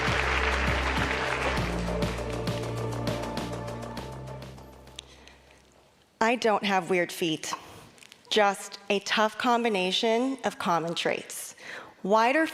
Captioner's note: applause